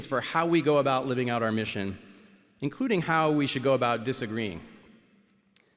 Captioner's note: none